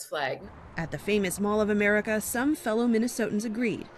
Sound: voice-over

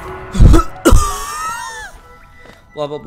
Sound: cough and wheeze

